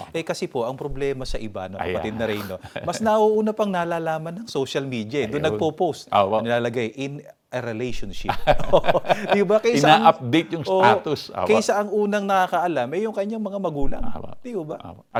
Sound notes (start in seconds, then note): 8.2 both laugh